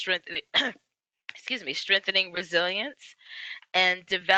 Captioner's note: cough